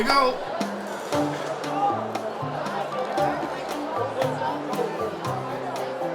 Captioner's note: ambient crowd noise